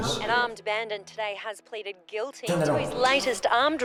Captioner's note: television